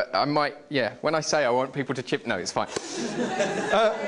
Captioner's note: laughter